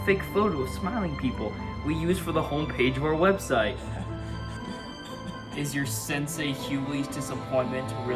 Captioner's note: confident Chuckle